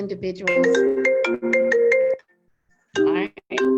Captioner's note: phone rings